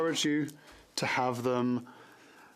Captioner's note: speaking French